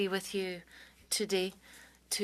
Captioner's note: speaking French